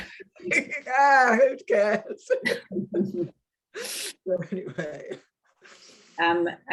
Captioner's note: woman chuckling; woman chuckling